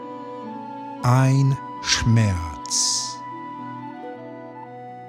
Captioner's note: german